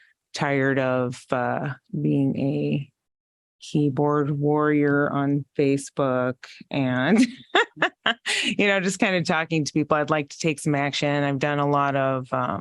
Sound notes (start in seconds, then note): 7.1 laughter